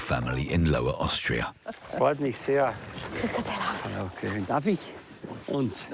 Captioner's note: speaking foreign language